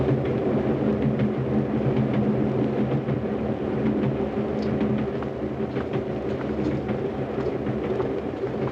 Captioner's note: train rumbling